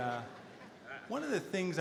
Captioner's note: audience laughter